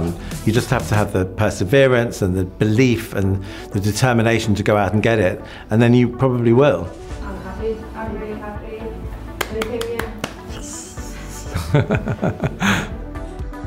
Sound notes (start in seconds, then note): 9.3 claps; 10.4 laughs